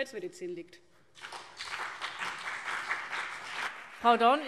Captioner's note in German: Beifall CDU und BÜNDNIS 90/DIE GRÜNEN